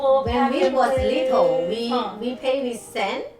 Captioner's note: laughs